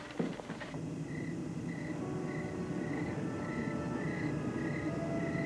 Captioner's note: crickets chirping